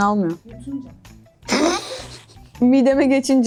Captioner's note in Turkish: gülme